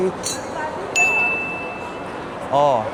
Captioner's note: ding!